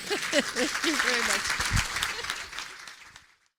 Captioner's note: audience applauding